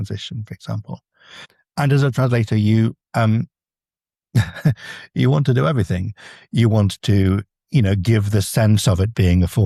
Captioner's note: chuckles